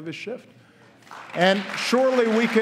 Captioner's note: applause